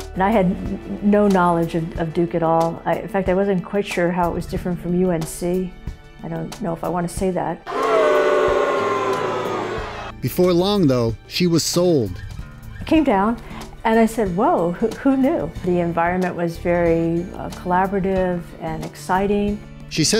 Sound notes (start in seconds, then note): 7.7 booo-ing